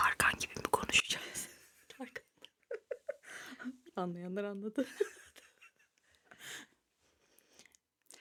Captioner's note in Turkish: kahkaha